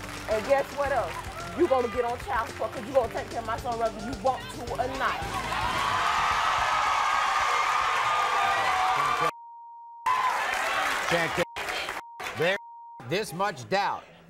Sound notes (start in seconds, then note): 5.0 audience cheers